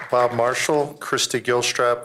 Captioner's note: applause